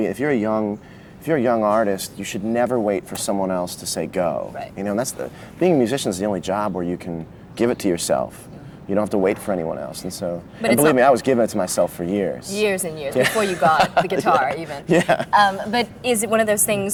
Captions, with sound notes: If you’re a young artist, you should never wait for someone else to say, “Go.” Right. - You know, and that’s the — being a musician is the only job where you can give it to yourself. You don’t have to wait for anyone else. And so — And believe me, I was giving it to myself for years. Years and years, before you got the guitar, even. - [Laughs] Yeah. But is it one of those things